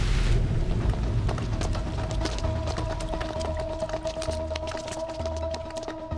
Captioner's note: Footsteps